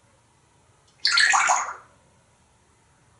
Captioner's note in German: water sound